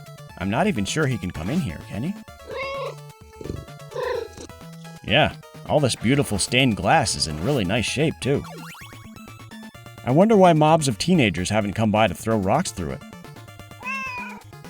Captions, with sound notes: I'm not even sure he can come in here, can he? (Meow) Yeah. All this beautiful stained glass is in really nice shape too. I wonder why mobs of teenagers haven't come by to throw rocks through it.